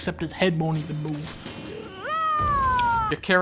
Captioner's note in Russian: Стражник орет